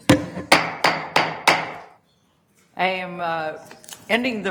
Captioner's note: gavel banging